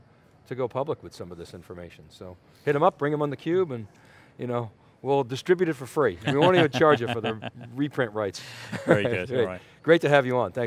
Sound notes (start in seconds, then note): 6.2 laughs